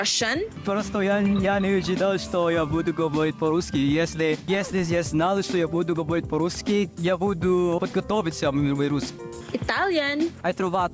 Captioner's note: speaking Russian; speaking Italian